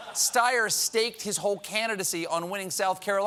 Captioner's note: laughter